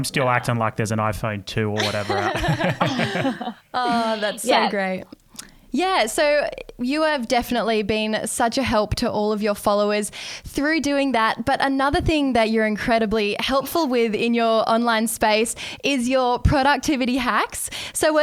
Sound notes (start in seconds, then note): 1.8 everyone laughing